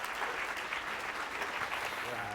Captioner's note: applause